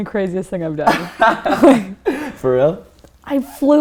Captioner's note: laughter